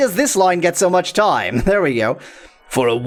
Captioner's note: laughs